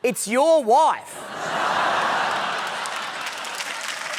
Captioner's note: laughter